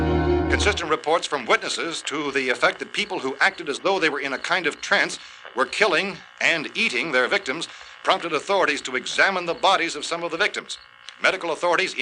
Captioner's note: radio news continues